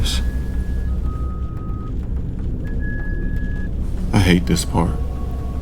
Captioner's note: beeping